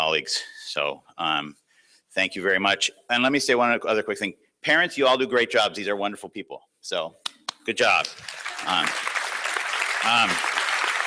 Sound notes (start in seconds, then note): 7.9 applause